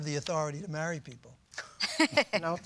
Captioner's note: laughter